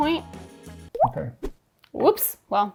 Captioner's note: paint dripping